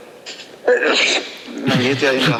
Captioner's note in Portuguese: grande espirro